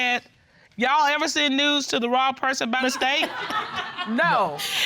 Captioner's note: reading